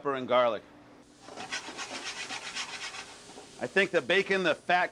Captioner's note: sizzling